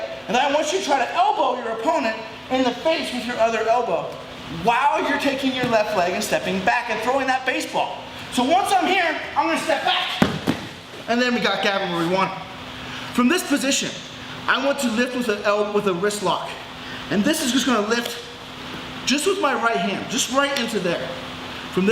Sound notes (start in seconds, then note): 10.2 thumping